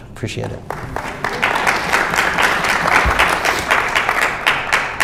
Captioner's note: audience applauds